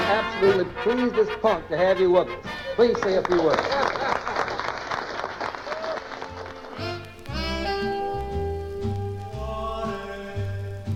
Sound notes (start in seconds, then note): 4.9 applause; 6.3 big band music